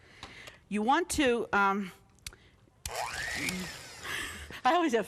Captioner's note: beater whirring